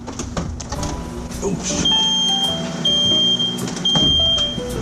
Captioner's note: smoke alarm blares